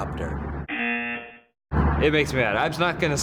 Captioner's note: buzzer